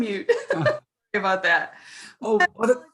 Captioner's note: chuckles